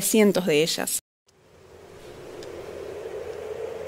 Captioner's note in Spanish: ráfagas de viento